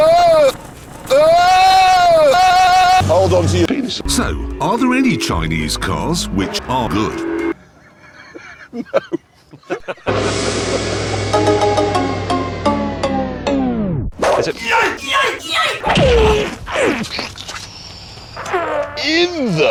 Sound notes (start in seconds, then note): 10.4 they laugh derisively